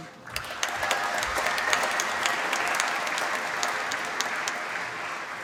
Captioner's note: applause